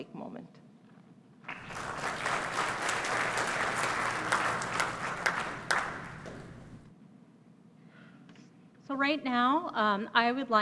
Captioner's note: applause